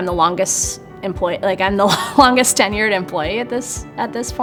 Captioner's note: chuckles